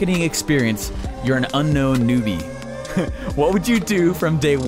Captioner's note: chuckles